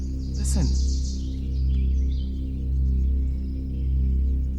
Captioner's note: birds chirping